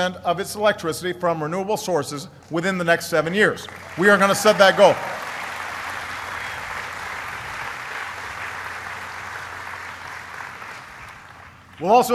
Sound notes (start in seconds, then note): 7.1 applause